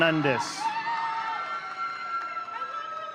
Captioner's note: audience cheering